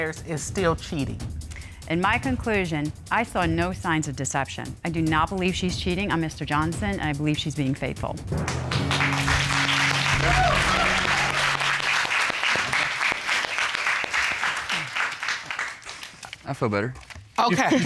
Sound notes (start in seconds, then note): 8.4 applause